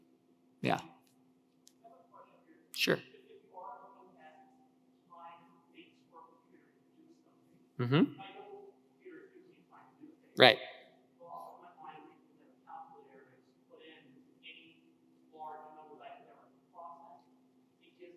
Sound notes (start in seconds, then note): 4.0 speaker 4 speaking faintly